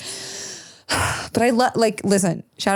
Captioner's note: sighs